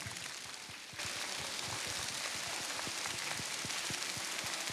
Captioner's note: applause